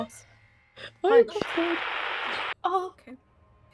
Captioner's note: static